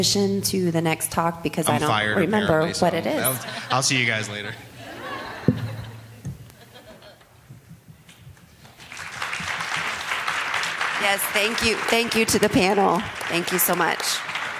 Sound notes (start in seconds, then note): 8.7 applause